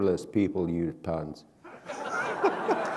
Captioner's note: laughter